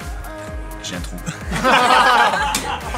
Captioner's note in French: rires